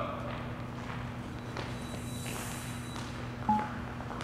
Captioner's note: footsteps tapping